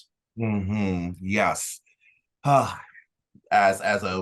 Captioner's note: sighs